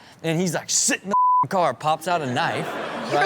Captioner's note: beep